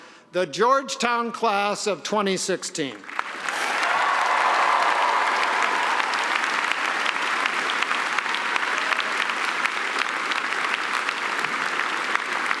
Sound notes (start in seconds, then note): 3.0 applause; 3.1 cheering